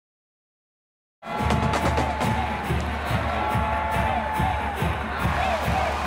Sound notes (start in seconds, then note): 1.2 crowd sounds on game day; 5.0 crowd chants